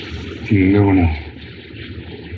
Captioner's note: chattering